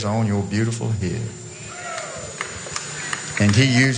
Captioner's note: applause